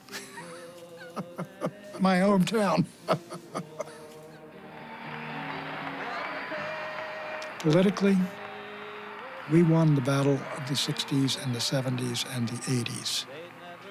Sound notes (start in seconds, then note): 0.3 chuckles; 4.6 cheers and applause